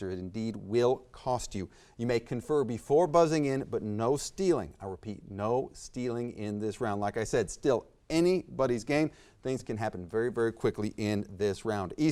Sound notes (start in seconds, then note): none